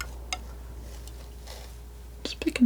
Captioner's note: tapping